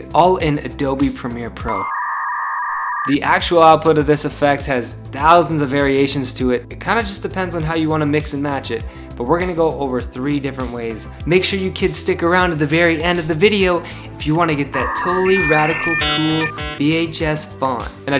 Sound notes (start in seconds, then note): 1.8 dial-up modem screeching